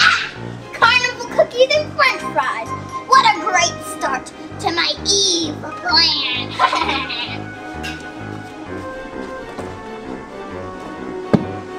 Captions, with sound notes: Ah, carnival cookies in play size, what a great start to my evil plan. (evil laughs) (suspenseful music)